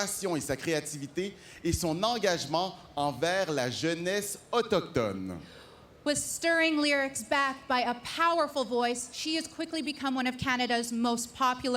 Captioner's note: speaking French